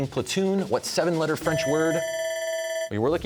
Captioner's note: bell ringing